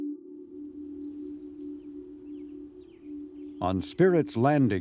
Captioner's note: birds chirping